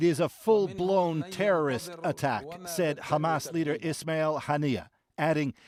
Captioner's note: speaking alternate language